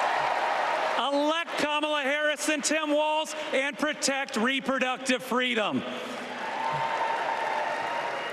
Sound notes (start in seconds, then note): 1.6 applause